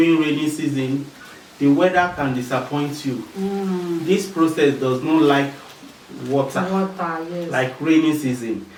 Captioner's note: rainfall